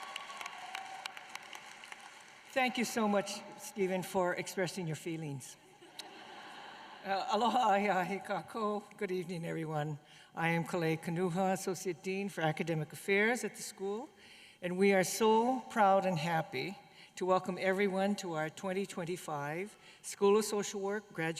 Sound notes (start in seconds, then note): 5.8 laughter